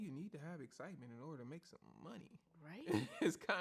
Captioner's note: laughs